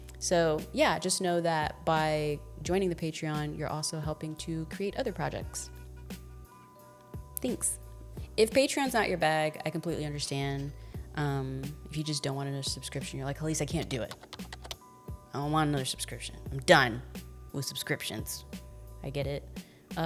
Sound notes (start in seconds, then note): 5.7 soft upbeat music; 13.8 keys clacking